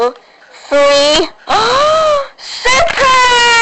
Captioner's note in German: Alle schreien; Alle Keuchen